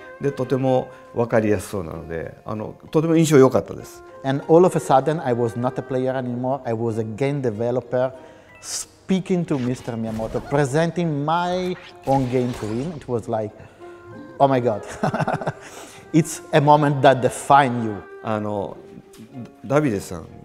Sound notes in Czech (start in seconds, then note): 14.8 smích